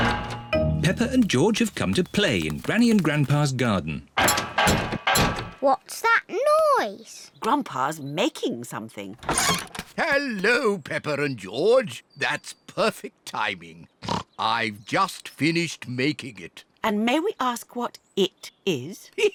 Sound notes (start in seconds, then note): 4.2 clattering and clanging; 14.0 snorts; 19.1 chuckles